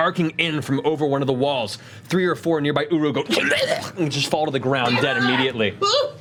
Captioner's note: dying sounds